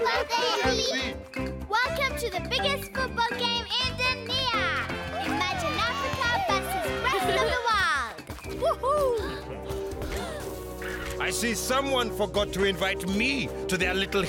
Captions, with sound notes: - Welcome to the biggest football game in Dunia! Imagine Africa versus rest of the world! - Whoo-hoo! (Tobor chuckles) (all gasping) - I see someone forgot to invite me to their little human party.